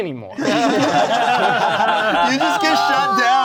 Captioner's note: everyone laughing